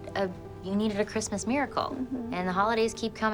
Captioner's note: Melinda hums